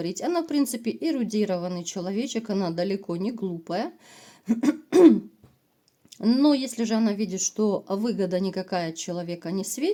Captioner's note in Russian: откашливается